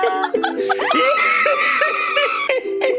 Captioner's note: screams over ukelele